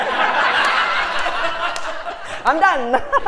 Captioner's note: laugh